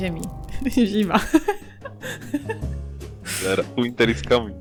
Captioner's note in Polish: śmiech